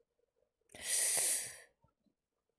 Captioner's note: sharp inhale